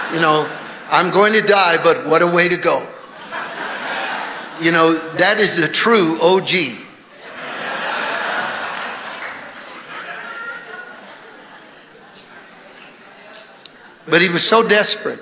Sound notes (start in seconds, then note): 9.9 congregation laughing